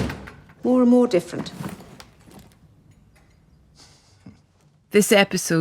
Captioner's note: drawer banging; briefcase banging